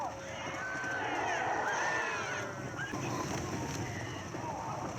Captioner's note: sounds of furious zombies